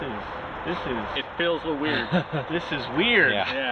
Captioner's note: chuckles